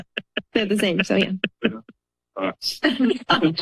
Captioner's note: laughter